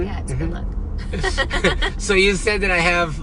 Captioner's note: both laughing